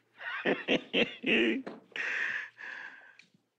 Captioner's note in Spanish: Risas